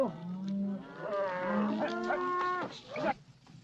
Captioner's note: cattle mooing